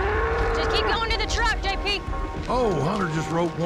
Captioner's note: bull grunting